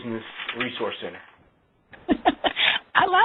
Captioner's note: laughs